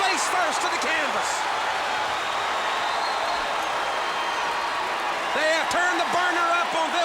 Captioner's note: applause